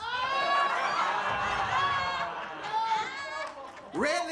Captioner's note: audience laughing